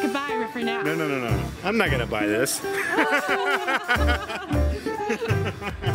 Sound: laughs

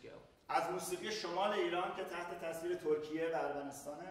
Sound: speaking in farsi

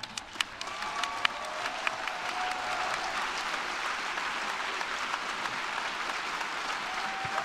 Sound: thunderous Applause

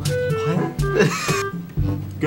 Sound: wheeze

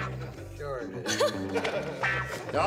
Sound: laughter

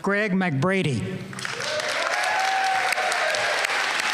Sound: applause

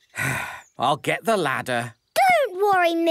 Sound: sigh

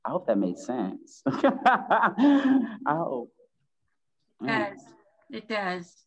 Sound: laughs

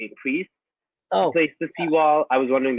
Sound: voice muffled

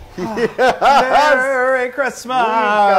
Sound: laugh

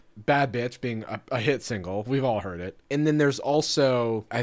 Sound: none

